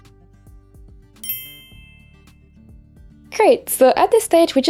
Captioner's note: dinging sound effect